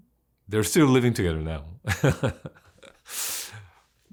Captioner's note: laughs